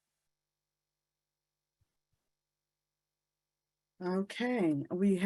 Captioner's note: silence continues